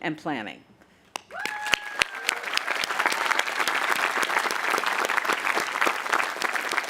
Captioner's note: audience applauding and cheering